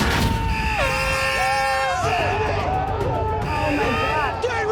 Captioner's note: alarm buzzing